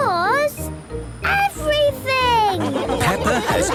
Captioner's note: laughing